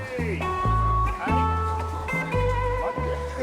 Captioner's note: speaking Japanese